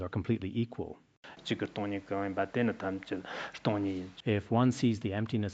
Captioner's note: citing scripture in Tibetan